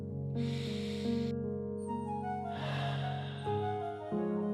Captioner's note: breathes deeply